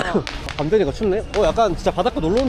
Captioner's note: cold night breeze